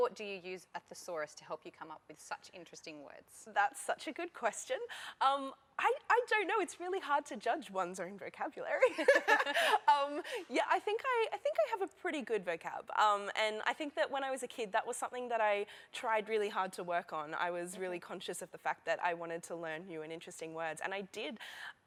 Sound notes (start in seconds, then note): 8.8 laughter